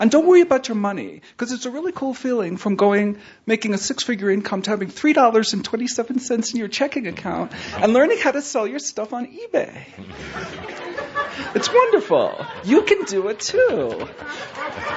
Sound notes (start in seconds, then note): 10.0 laughter; 13.6 more laughter